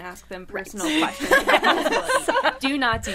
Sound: all laughing

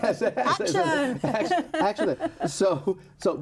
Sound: all laughing

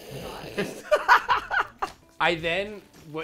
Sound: laughs

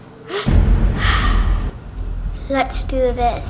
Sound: magical music; sighs

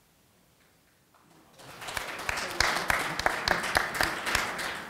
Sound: audience applauding

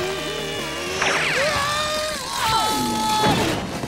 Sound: screaming

